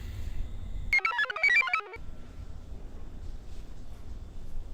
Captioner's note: computer chirps